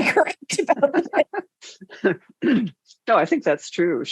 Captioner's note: laughs